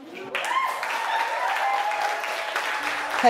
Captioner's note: cheering